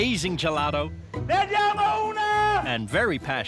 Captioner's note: shouting in Italian